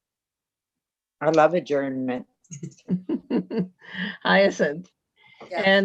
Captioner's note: laughs